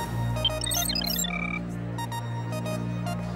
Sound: computer beeping

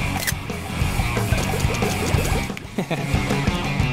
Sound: camera snap; wet blooping

